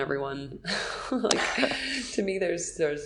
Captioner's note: laughing